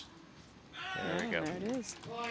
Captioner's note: players shouting